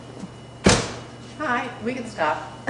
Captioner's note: door opening